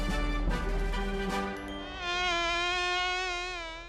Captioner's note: fly buzzes